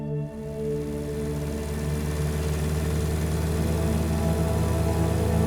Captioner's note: motorcycle engine humming